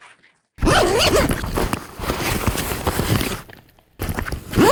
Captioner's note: zipper unzipping